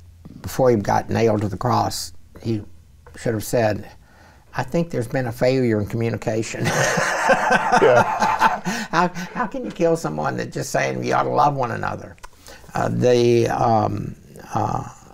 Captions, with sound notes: Before he got nailed to the cross, he should have said, "I think there's been a failure in communication." [laughs] How can you kill someone that's just saying we ought to love one another?